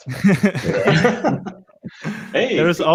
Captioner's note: all laughing